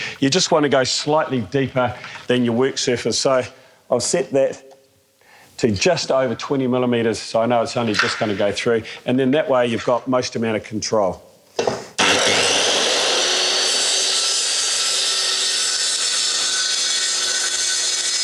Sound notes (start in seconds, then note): 12.0 circular saw sound